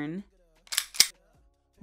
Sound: gun cocks

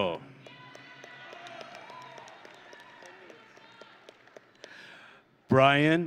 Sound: audience and graduates cheering

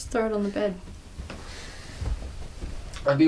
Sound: footsteps

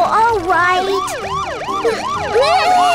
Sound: police siren; Tayo shrieks

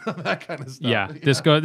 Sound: laughter

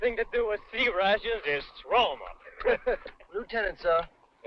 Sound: laughing

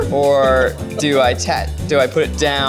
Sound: laughing

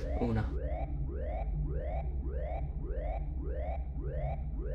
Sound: alarm blaring

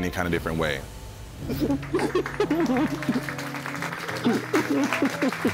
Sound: people clapping

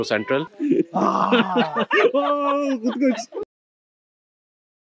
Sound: lion roaring

